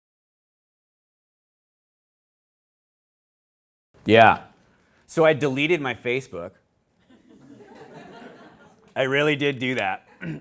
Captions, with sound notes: [ SILENCE ] YEAH. SO, I DELETED MY FACEBOOK. [LAUGHTER] I REALLY DID DO THAT.